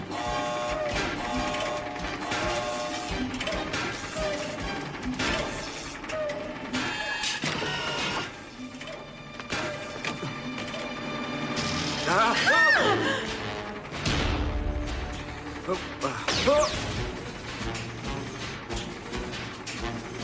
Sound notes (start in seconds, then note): 1.9 alarm blaring